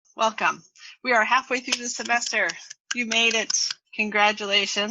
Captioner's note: applause